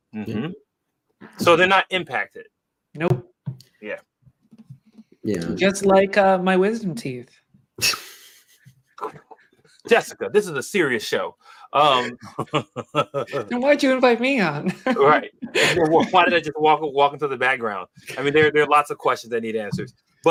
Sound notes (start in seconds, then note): 8.9 laughs; 11.9 laughter